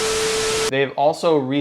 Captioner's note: static buzzing